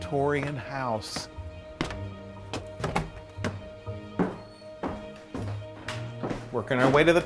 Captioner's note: sound of footsteps